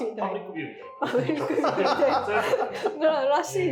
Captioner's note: laughing